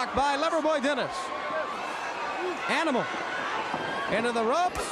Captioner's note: crowd cheering